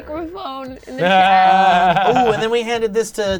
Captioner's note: laughing